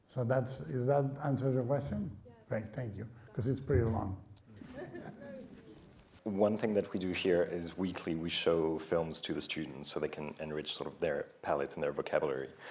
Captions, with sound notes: So that's... does that answer your question? - Yeah. - Right, thank you. Coz it's pretty long. [laughing] - One thing that we do here is weekly we show films to the students so they can enrich sort of their palate and their vocabulary.